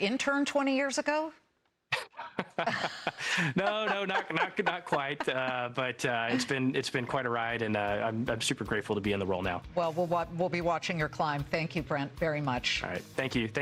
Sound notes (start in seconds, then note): 7.2 laughter